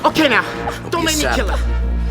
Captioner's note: squeals